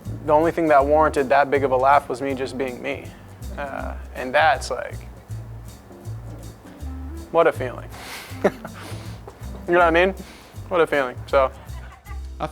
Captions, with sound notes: the only thing that warranted that big of a laugh was me just being me. And that's like... What a feeling. (laughing) You know what I mean? What a feeling. So...